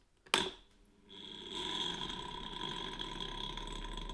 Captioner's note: rattling